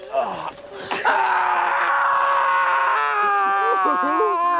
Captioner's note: screams